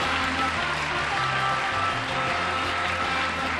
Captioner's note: applause